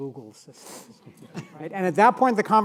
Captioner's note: audience laughing